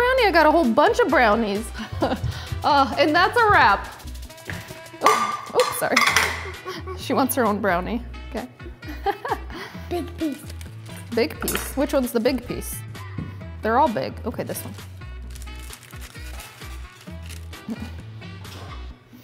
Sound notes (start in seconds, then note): 1.7 laughs; 5.0 plate clatters; 8.7 laughs; 11.4 knife clatters